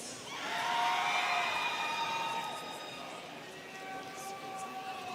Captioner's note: students cheering